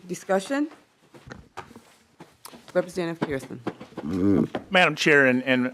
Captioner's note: gavel